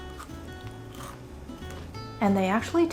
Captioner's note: ball crunching